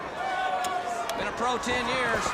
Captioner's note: crowd cheering